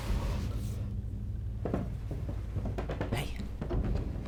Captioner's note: loud clattering